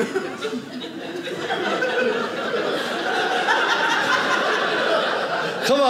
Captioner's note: audience laughing